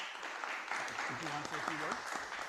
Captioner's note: audience applauding